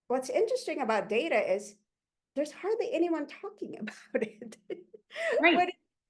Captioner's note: chuckles